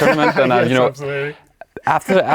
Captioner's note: laughs